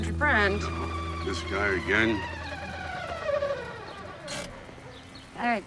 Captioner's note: battery whistling